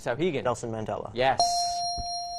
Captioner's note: ding